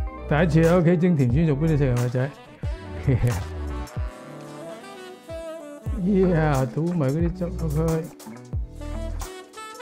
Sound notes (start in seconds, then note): 2.9 laugh